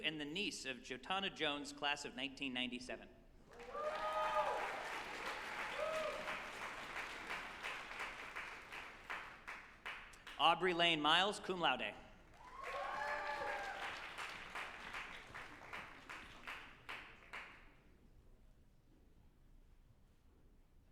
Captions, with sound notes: and the niece of Shetana Jones, Class of 1997. (group applauding and cheering) Audrey Lane Miles, cum laude, (group applauding and cheering)